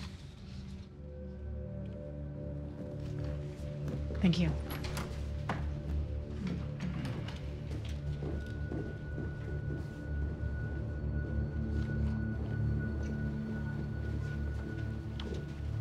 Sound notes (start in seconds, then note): 0.2 ominous music; 8.2 footsteps tapping; 8.2 ominous music